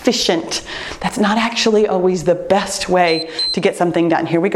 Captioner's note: timer beeps